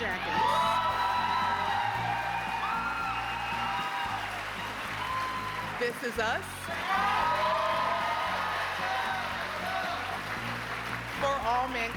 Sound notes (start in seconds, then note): 0.0 applause; 3.8 cheers and applause